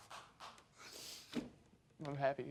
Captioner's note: sniffling